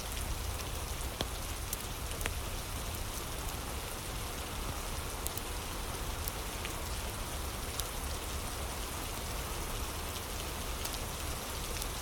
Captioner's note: fire crackling